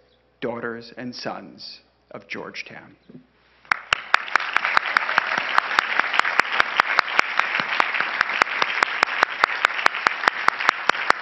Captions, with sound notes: daughters and sons of Georgetown. (crowd applauding)